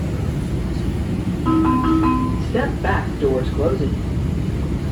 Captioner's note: chime